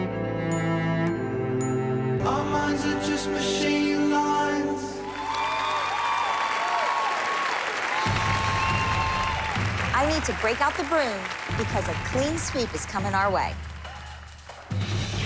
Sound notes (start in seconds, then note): 4.8 cheering and applause